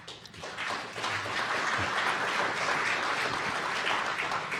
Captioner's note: audience applauding